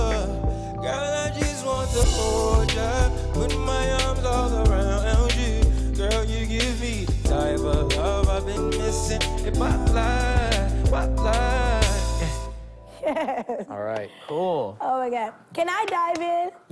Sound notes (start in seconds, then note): 13.0 chuckling